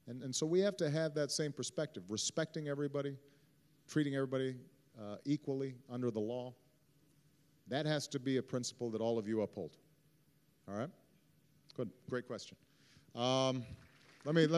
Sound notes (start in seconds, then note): 13.5 applause